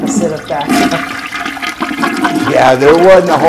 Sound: toilet Flush

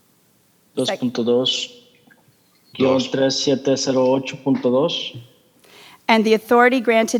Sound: translator speaking in foreign language

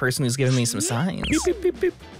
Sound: radar sounds

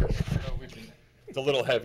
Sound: speaking off microphone

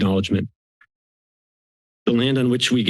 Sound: silence

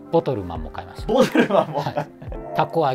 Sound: laughing

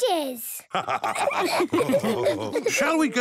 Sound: all laughing

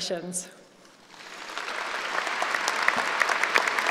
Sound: applauding

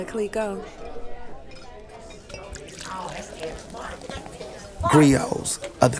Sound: sound of pouring a drink

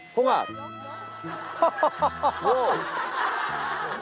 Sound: he laughs

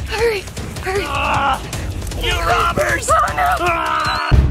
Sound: grunts

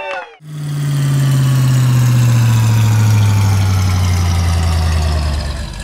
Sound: engine slowdown

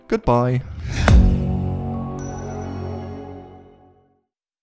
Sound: whooshing, gentle chimes

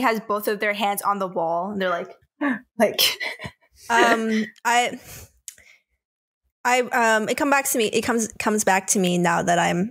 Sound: gasps

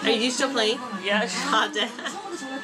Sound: laughs

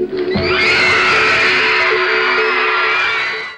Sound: audience screaming and cheering

